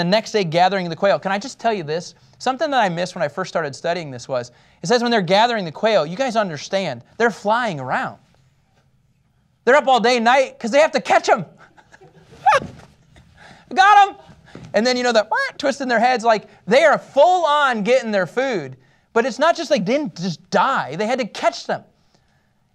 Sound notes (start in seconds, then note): 11.6 laughter